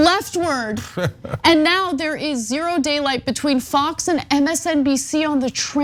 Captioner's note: laugh